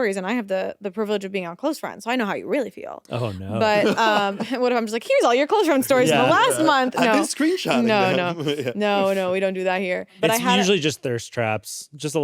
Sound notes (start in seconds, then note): 3.1 laughs